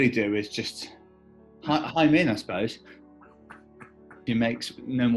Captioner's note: chuckling